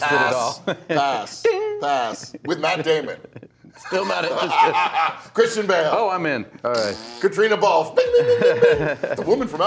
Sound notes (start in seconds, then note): 1.9 laughs